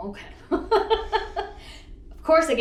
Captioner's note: laughs